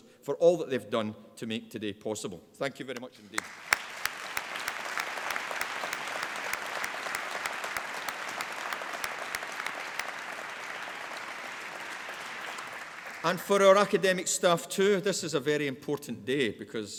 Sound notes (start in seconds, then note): 3.8 applause